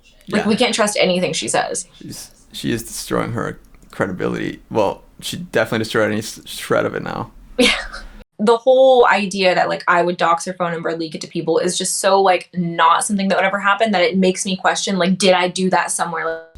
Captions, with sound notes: Like, we can't trust anything she says. -She's-- she is destroying her credibility. Well, she definitely destroyed any shred of it now. -Yeah. [laughs] The whole idea that, like, I would dox her phone number and leak it to people is just so, like, not something that would ever happen that it makes me question like, "did I do that somewhere?